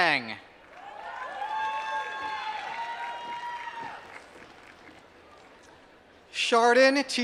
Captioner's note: applause